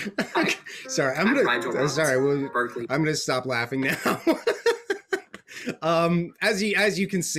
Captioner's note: laughs